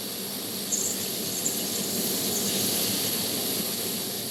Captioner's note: machine welding